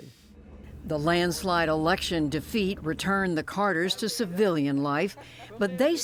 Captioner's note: voice-over